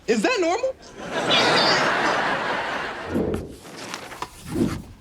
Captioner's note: audience laughs